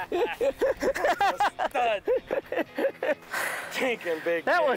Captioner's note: laughing